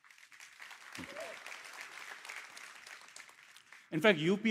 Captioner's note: cheers, applause